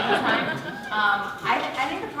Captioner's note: laughter